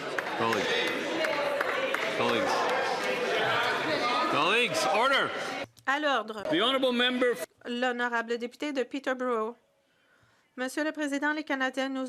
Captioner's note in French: voix de l'interprète